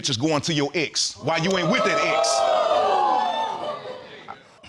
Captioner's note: audience whooping